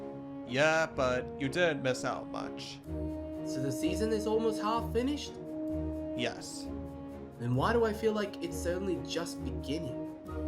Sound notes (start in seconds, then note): none